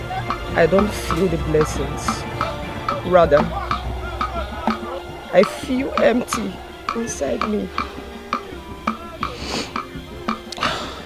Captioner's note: snorts